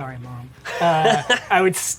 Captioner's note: laughs